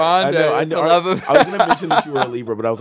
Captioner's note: laughs